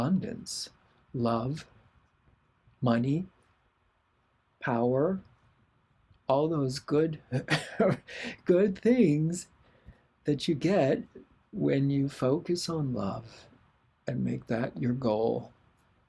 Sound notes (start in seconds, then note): 4.0 laughter